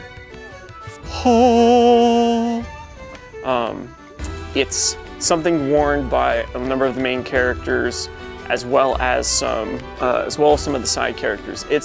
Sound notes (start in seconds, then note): 1.0 angel noises